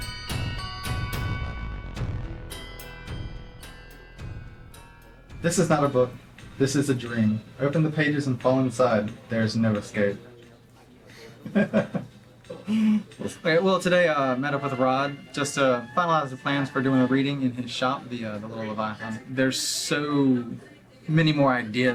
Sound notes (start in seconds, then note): 11.4 laughter